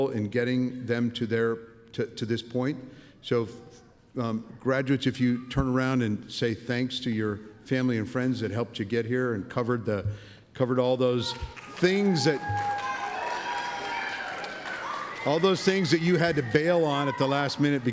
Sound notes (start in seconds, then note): 11.3 cheering